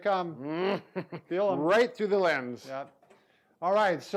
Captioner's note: chuckling